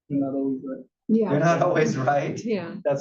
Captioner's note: laugh